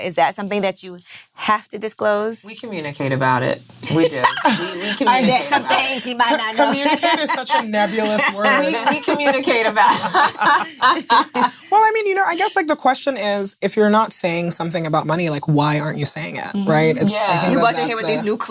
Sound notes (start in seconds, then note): 3.4 women laughing; 6.6 laughing; 10.5 women laughing